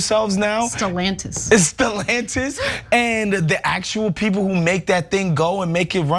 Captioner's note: laugh